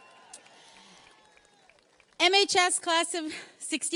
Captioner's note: audience cheers and applauds